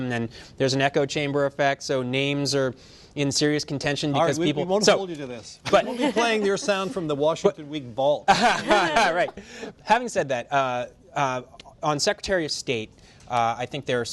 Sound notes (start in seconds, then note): 8.2 laughter; 8.3 laughs